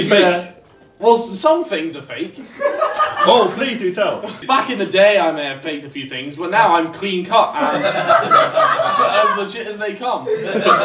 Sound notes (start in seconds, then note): 7.6 laughing